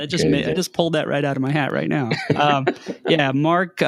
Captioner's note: laughing